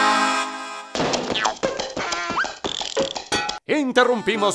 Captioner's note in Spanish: Sonido cartoons